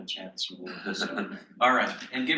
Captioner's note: chuckles